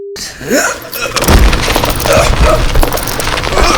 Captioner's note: groans